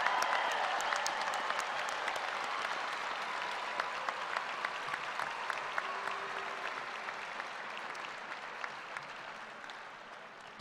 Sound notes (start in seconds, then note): 0.9 applause